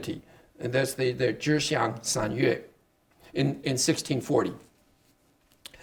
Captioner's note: speaking Chinese